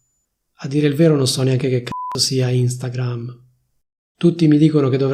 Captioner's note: beep